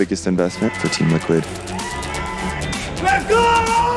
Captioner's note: crowd cheering